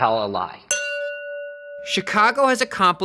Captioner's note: bell rings